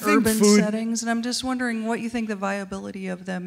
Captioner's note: voiceover